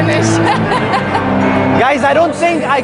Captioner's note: laughing